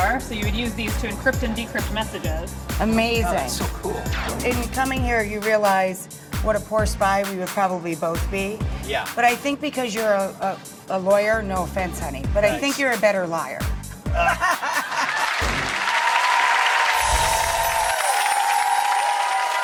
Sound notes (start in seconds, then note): 14.1 laughter; 14.6 crowd applause